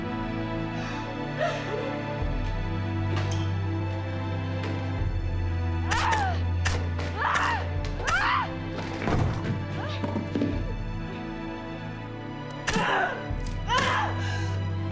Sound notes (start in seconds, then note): 7.2 Jill crying out